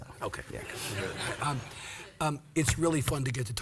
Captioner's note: audience laughs